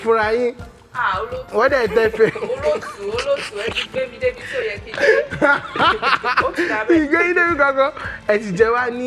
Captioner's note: laughs